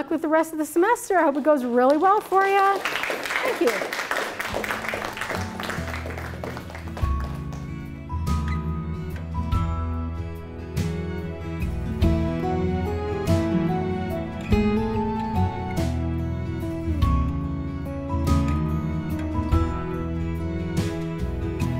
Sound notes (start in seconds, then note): 2.7 applause; 5.5 closing music